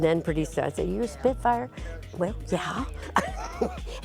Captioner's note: laughs